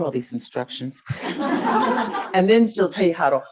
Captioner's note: audience laughs